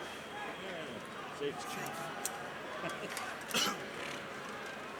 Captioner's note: crowd chattering